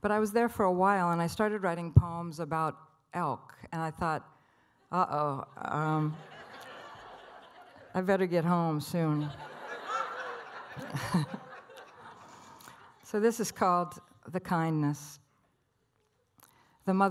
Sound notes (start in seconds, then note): 5.7 audience laughter; 9.4 laughs